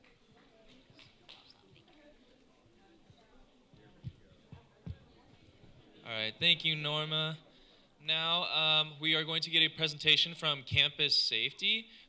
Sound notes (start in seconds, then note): 0.9 talking in background